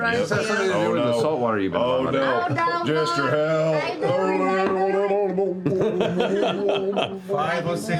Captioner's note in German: täuscht ertrinkende Geräusche vor